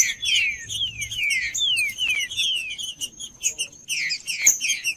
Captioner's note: trinca ferro cantando